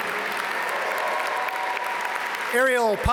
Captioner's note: audience cheer and applaud